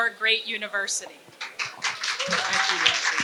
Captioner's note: applause